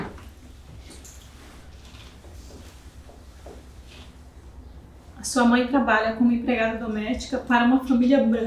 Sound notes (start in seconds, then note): 4.8 speaking portuguese